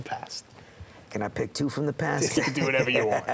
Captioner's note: laugh